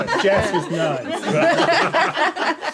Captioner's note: laughing